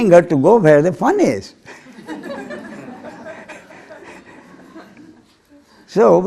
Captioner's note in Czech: smích